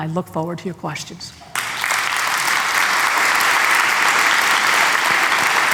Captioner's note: applause